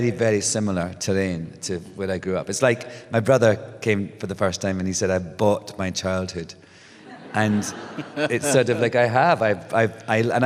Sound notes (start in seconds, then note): 7.0 laughter